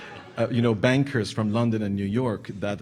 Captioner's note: audience laughing